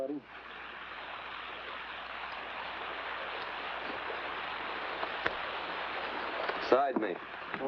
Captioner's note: water running